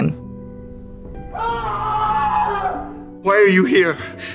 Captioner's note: Young Hugh screams